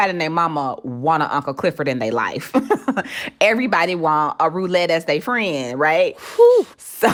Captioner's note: laughter